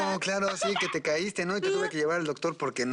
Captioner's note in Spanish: Ella ríe